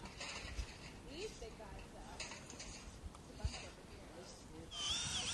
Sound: metal taps

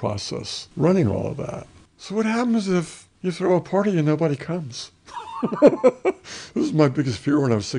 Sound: laughs

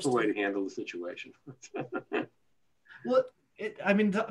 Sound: laughter

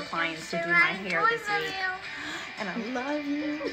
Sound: babbling

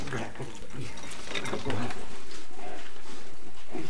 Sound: man slurping

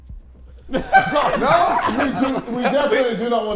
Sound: Sidemen laughing

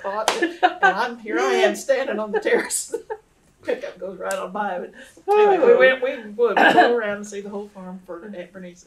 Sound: laughter

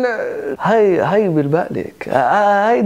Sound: imitating male Lebanese salesman

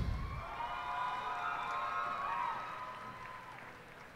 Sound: cheers and applause

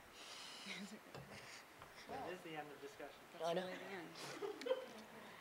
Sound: laughing

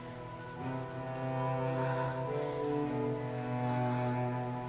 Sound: breathing heavily

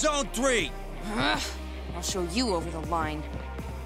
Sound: groaning

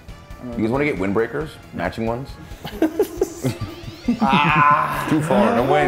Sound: laugh

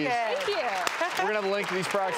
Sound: applause

